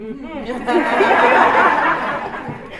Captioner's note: laughter